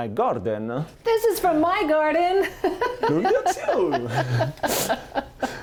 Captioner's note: laughs